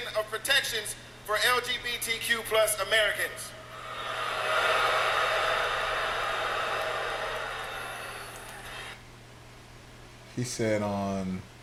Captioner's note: crowd Booing